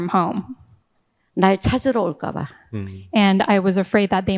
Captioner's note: speaking in foreign language